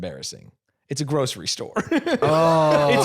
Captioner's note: laughs